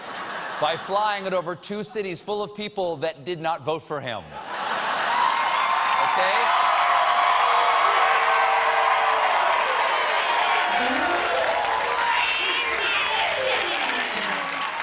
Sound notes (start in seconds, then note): 4.3 laughter; 4.5 cheers and applause